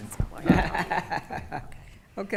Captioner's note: laughing